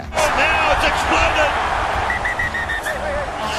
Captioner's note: whistle blows